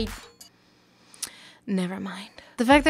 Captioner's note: smacks lips in disappointment